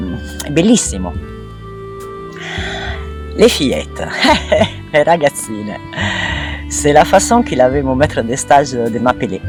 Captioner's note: laughs